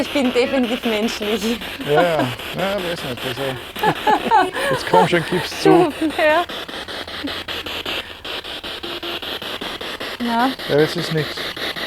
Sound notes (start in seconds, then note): 6.9 noise of the spiritbox in the background